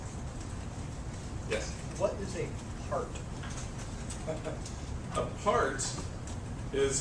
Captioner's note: laugh